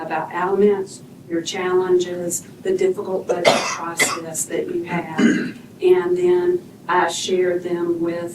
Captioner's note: cough; clears throat